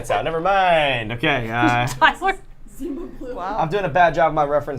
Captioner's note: laughter